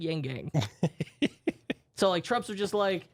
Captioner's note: softly laughing